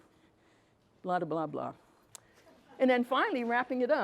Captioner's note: attendee chuckles